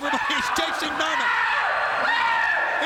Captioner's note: screams